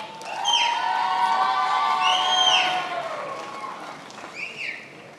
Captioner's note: attendees applauding and cheering